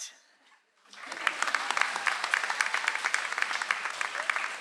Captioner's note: audience applauds